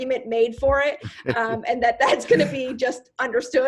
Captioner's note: giggling